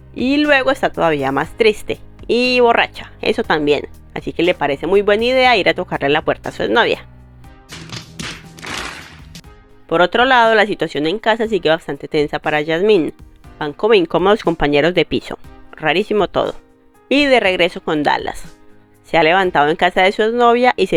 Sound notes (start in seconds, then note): 7.7 slapping